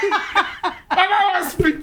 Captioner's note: laughing